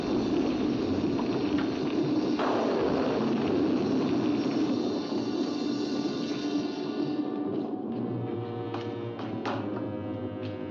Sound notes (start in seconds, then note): 0.0 loud thunder; 0.2 fire crackling; 2.3 loud thunder; 2.4 fire crackling; 4.7 ominous music